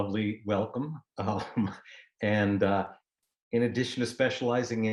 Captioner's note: laughter